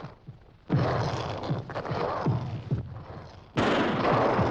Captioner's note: estrondo tiros